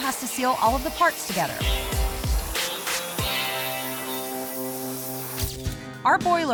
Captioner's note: sizzling sound